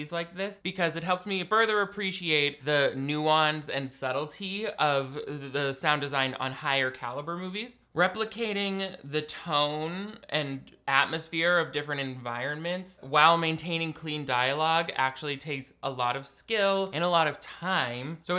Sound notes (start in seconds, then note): none